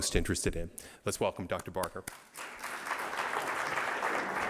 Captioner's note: applause